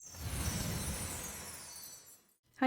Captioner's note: tinkling sound effect